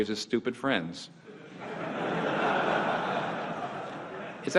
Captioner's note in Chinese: 會眾笑